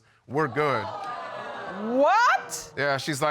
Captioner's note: audience exclaiming